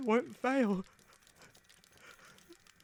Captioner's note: oscar sobs quietly